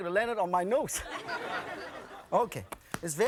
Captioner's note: audience laughing